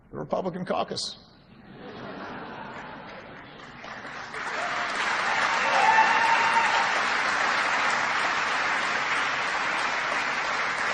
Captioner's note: laughter and applause